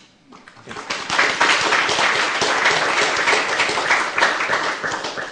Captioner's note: applause